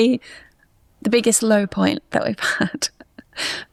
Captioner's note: chuckles